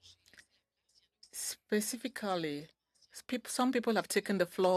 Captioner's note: speaking French